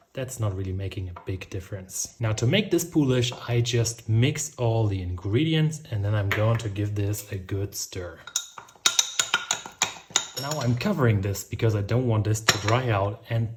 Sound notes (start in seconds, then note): 8.2 spoon rattling